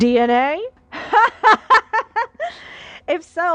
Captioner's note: enthusiastic laughter